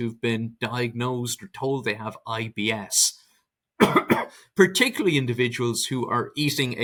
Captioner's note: coughs